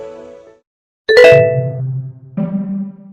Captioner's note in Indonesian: suara notifikasi